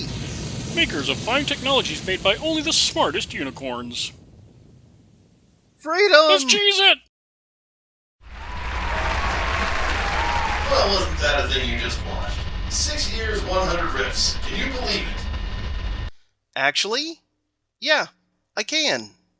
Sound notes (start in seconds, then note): 8.2 audience cheering & applause